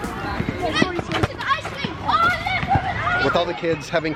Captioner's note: kids chattering playfully